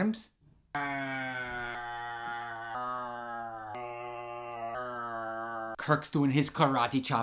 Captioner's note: mocking roars